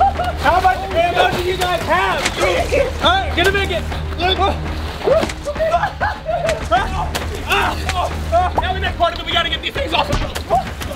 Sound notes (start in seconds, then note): 3.9 laughter; 3.9 screaming; 8.6 intense music